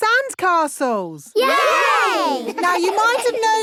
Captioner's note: laughing